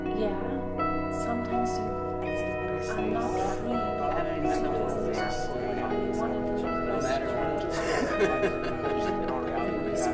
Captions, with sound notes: - Yeah, sometimes you... (people talking)